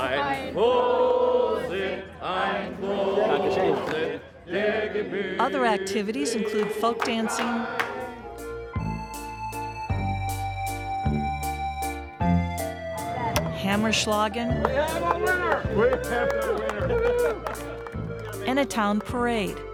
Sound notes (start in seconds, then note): 0.2 crowd singing in German; 14.4 sparse cheering